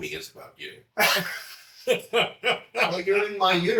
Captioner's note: laughs